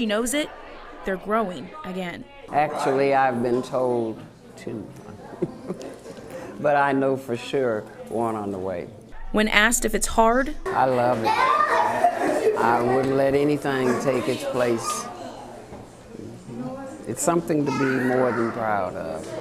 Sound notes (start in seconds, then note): 11.2 laughter